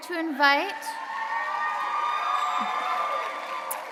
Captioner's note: audience cheering